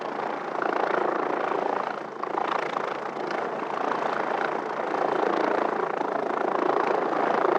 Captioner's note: helicopter noise